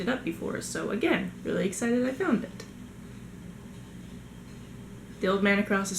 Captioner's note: scratching noises